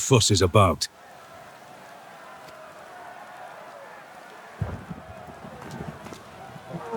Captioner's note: crowd cheering